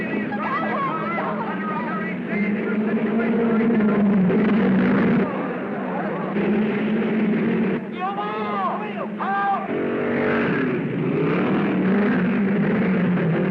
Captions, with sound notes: - Tell him to stop. (cars revving) (crowd murmuring) - Your wheel! - The wheel, the wheel. - Out. (cars revving)